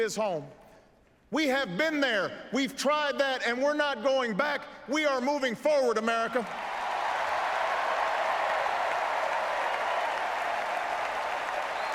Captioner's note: applause